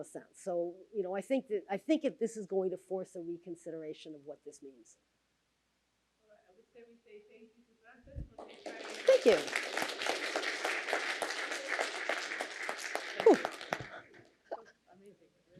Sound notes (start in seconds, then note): 8.2 applause; 11.2 applause continues